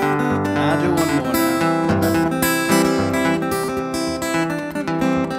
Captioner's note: laughs